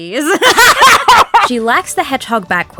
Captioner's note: both break character and laugh hysterically